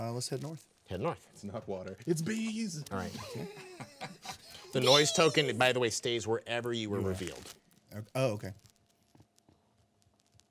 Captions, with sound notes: Let's head north. - Head north. - It's not water, it's bees. (group chuckling) - Bees! - The noise token, by the way, stays wherever you were revealed. - Oh, okay.